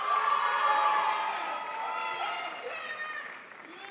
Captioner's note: crowd applauds